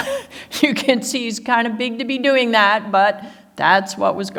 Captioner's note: laughs